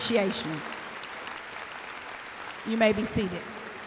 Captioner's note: applause